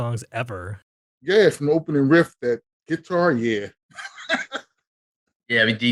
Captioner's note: laughing